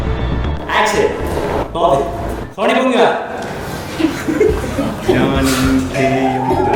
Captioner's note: laughs maniacally